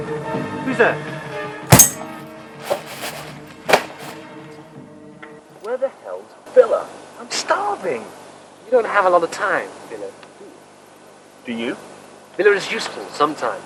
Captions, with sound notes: Whose there? *THUD* Where the hell is Villa? I'm starving! You don't have a lot of time for Villa do you? Do you? Villa is useful...sometimes.